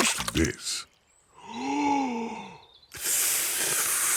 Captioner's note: takes big breath and blows